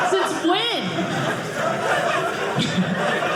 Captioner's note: audience laughing